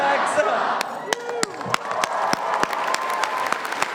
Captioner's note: applause